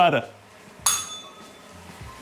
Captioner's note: bell rings